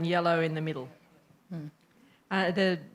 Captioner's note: chatter